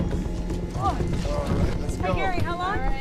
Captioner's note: grunts